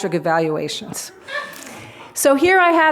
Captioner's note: laughter